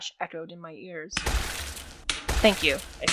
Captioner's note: Gary’s heavy breathing and gunfire